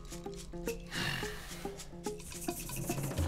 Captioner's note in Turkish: Nefes sesi